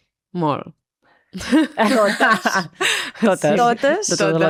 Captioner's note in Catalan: rialles